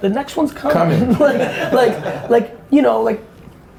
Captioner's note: laughs